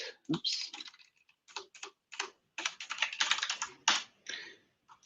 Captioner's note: typing